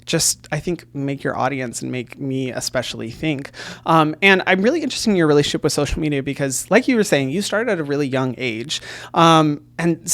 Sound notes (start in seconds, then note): none